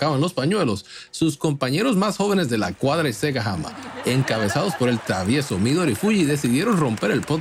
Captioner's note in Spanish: risas